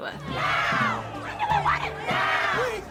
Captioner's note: crowd